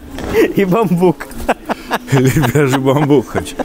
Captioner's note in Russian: смех